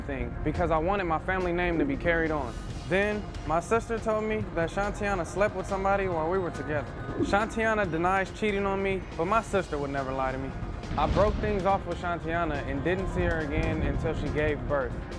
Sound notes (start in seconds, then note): none